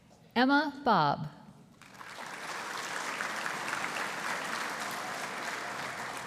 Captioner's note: audience applauding